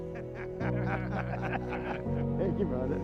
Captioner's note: laughs